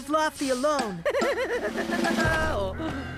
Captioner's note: laughing